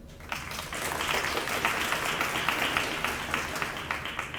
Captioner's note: audience applauds